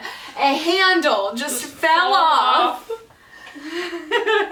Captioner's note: laughs